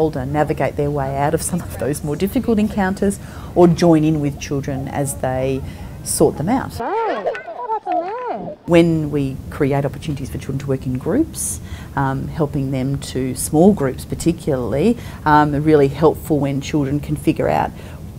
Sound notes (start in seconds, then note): 7.1 background voices